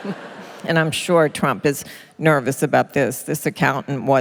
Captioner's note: laughter